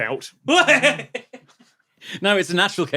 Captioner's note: giggles